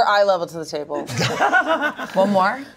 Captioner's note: everyone laughs